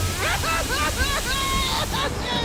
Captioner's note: sobbing